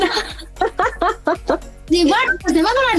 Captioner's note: laughs